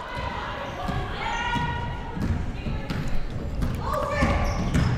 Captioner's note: ball pounding